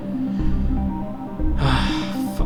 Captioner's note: sighs